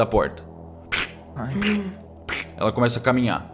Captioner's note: plurgh plurgh plurgh